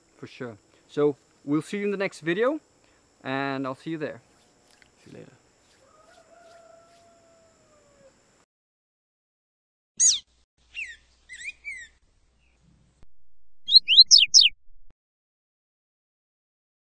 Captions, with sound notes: - For sure. So, we'll see you in the next video, and I'll see you there. - See you later. (rooster crows) (bird chirping)